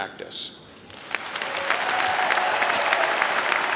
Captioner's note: applause